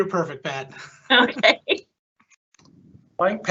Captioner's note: pat